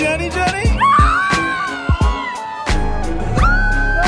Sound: screams

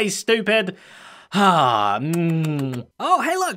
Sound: kiss noises

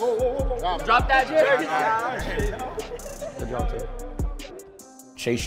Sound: overlapping chattering

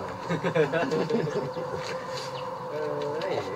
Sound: laughter

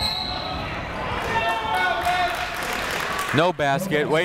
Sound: whistle; clapping

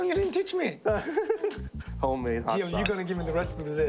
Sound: laughter

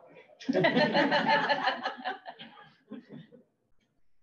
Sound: all laugh

